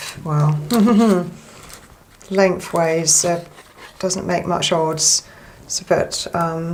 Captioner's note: hmm, hmm